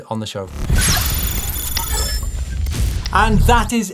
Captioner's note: electronic dinging